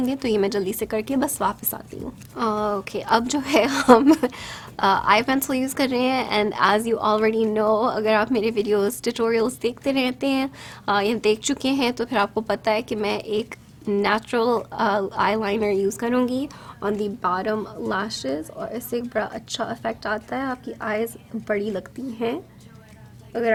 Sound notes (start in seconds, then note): 3.4 laughs